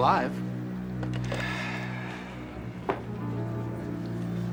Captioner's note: sighs